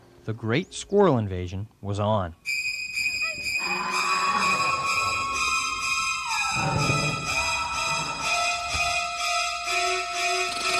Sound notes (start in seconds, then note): 2.5 intense dramatic music; 3.6 people screaming; 6.7 intense dramatic music